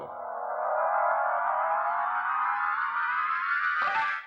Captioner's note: whirring